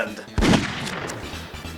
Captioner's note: gunshot